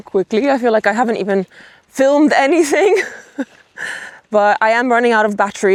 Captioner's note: chuckles